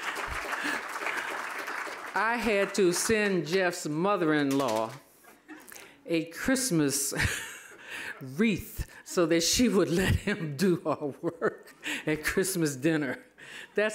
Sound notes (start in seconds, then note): 7.3 laughing